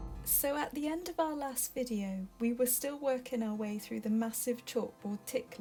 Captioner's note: voiceover